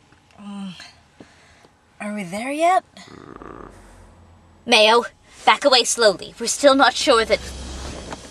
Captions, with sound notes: Mmm.. Are we there yet? [Moan.] Mayo... back away slowly. We're still not sure that...